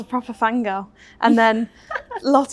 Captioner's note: Beth and Leah laugh